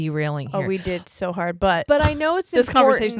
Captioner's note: chuckles